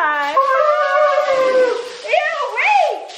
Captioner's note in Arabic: هتاف